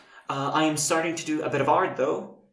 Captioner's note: none